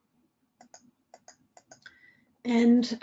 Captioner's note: mouse clicking